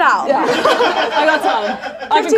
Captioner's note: audience laughs